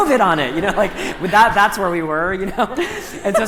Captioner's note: laughter